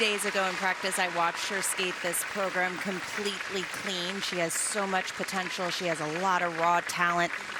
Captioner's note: cheers and applause